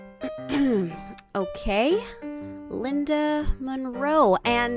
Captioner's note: clears throat